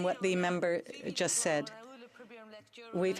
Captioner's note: speaking in french